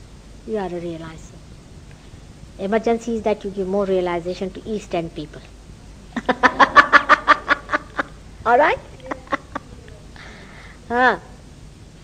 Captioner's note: laughing